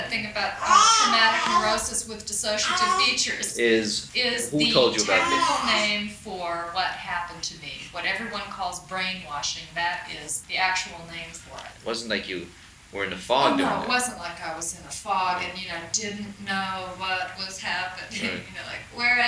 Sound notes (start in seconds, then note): 3.7 voiceover; 11.7 voiceover